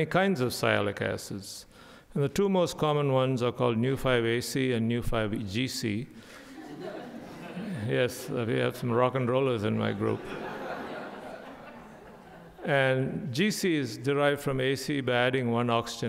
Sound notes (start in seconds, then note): 6.4 audience laughing; 9.7 audience laughing